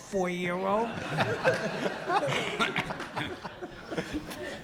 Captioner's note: audience laughs